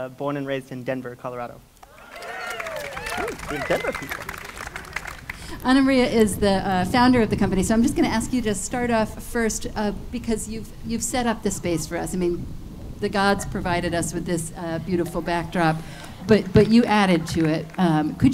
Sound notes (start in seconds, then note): 1.8 audience cheering